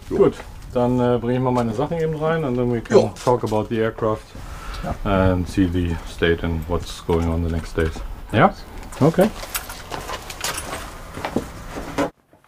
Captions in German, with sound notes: Gut, dann bring ich meine Sachen rein. (spricht englisch) Ja? Okay.